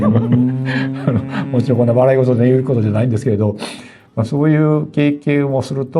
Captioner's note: laughs wryly